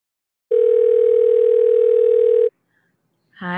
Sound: phone ringing

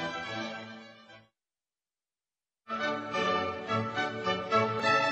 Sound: none

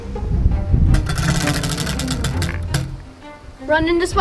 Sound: wheel clanks around metal axle

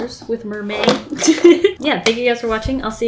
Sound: laughs

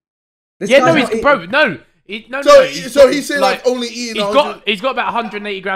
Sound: all laughing; men clapping

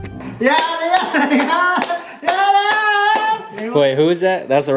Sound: shouting and clapping

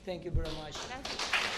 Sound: applause

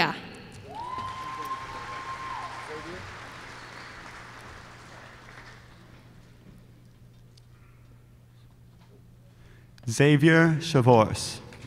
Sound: applause

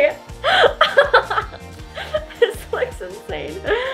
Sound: laughing

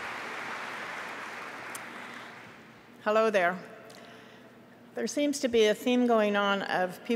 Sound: applause

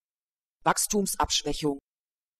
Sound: fast Pronunciation

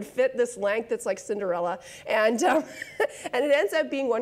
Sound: laughs

